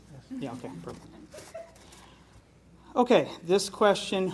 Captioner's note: laughing